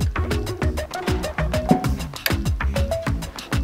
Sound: furniture taps

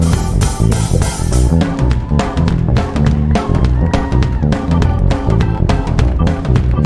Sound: audience cheering; audience clapping

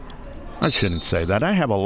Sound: whistle

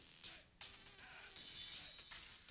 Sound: none

